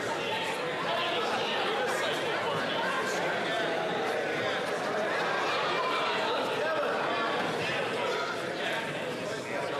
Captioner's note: yelling